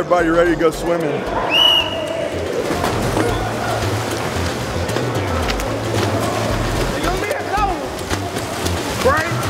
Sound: whistle blows

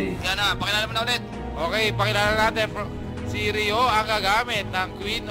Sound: commentator's voice

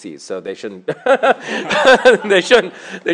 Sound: laughter

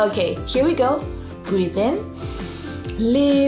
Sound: breathes in deeply

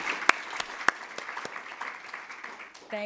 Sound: applause

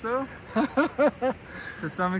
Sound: laughs

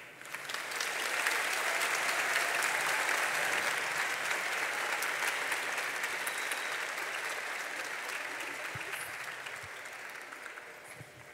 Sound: applause

